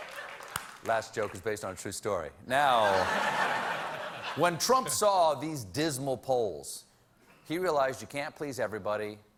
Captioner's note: laughter